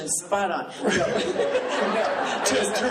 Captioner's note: laughing